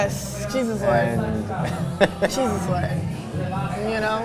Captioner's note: laughs